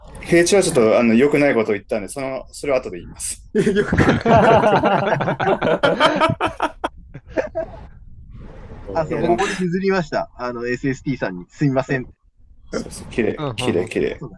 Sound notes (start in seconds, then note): 3.5 laughter